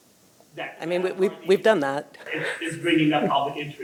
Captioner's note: chuckles